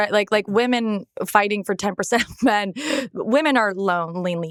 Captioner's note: chuckles